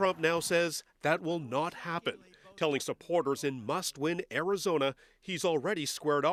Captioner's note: cheers and Applause